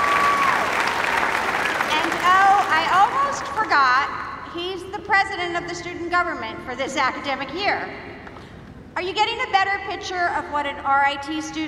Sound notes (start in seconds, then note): 0.0 applause